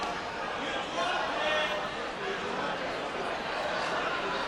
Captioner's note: audience chatter